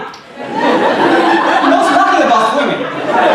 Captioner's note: audience laughing